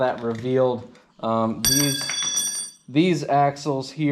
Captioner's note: metal clanging